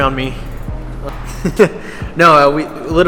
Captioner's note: chuckles